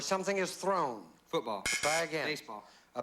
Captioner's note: buzz buzz